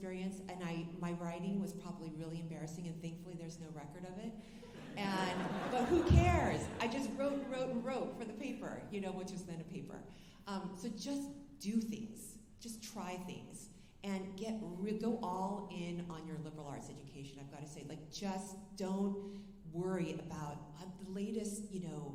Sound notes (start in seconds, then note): 4.7 alumni laughing